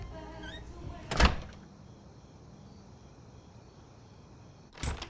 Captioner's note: door slamming